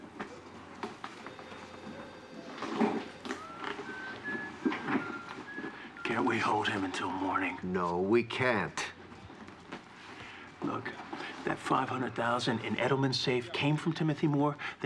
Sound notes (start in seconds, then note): 3.5 whistles